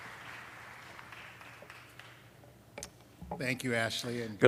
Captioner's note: applause